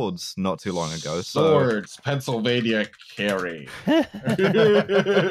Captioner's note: keyboard tapping; laughter